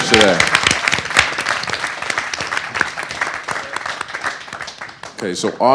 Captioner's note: audience applause